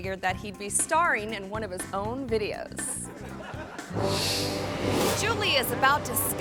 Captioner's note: audience laughing